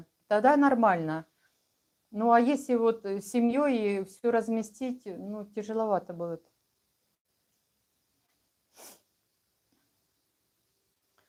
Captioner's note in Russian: фыркает